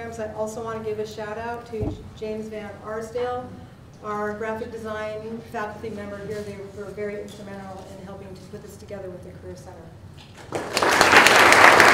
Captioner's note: applause